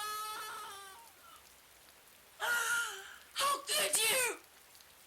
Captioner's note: female Neighbour crying - how could you?